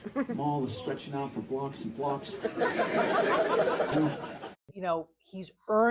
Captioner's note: audience laughter